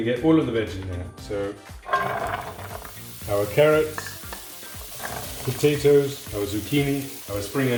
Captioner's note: pan sizzling